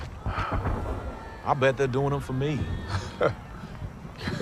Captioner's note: laughing